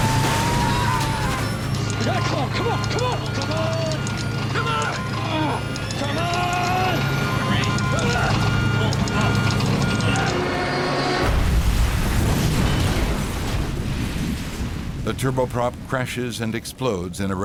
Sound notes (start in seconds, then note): 7.5 beeping; 11.2 crashing